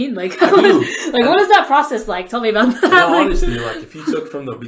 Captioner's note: laughs